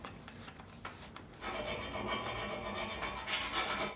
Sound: metal grinding noise

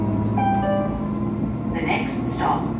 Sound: two Tone Chime

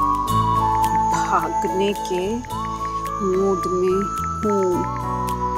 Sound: typing

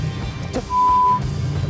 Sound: curses

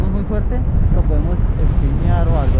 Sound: in Spanish

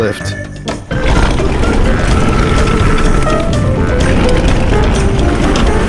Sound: tires rumbling on the ground

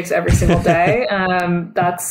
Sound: laughs

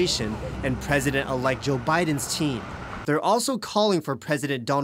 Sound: car drives

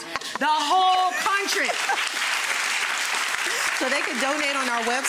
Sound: audience applauding

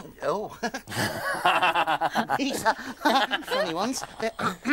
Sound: laughing

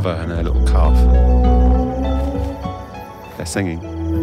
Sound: creature bellows

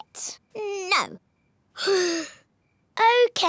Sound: sighs

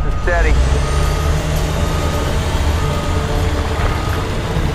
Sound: truck beeping

